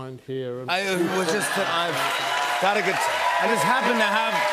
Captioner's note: laughter, cheers, applause